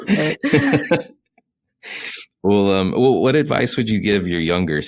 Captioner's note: laughs